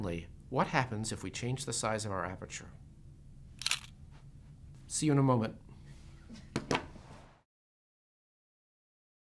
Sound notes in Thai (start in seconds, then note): 3.6 เสียงกล้อง